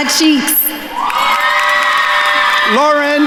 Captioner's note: attendees cheering and applauding